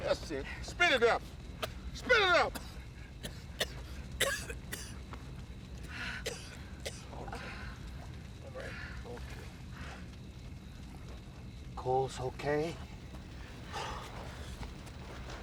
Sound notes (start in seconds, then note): 3.1 coughing; 6.2 sighs of relief